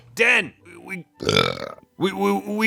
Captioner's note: burp